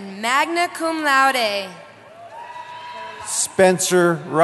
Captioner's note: cheering